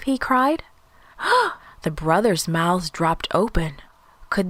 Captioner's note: gasp